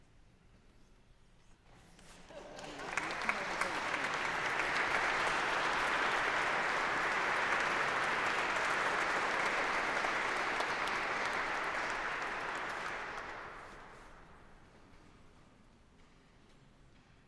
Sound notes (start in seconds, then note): 2.4 audience laughing; 4.2 applause